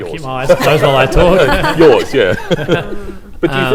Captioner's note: laughter